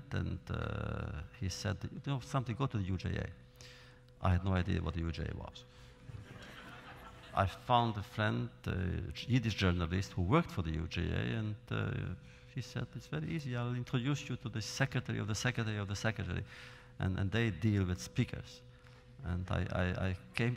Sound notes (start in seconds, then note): 6.0 laughter